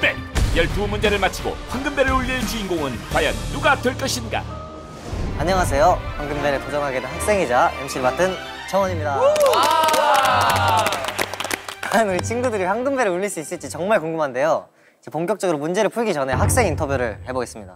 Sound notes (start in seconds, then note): 9.3 clapping